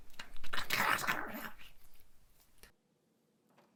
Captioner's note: eating sounds